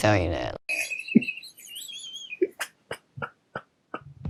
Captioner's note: laughing